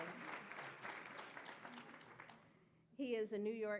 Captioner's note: audience clapping